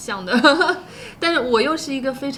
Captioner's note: laughter